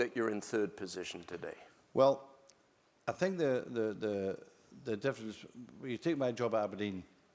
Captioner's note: none